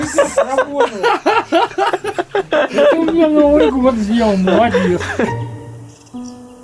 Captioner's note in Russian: смех